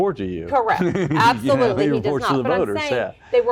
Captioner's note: laugh